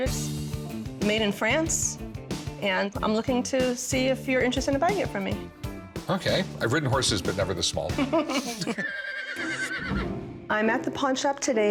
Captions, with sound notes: made in France, and I'm looking to see if you're interested in buying it from me. - Okay, I've ridden horses but never this small. [both laughing] [horse whinnies] - I'm at the pawn shop today